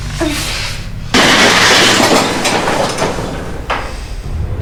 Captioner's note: door whirring